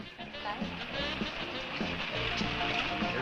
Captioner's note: engine rumbling